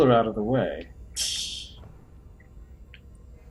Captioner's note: tee-heeing